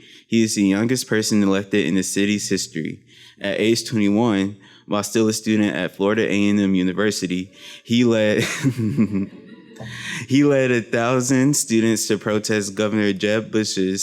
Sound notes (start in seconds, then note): 8.4 laughs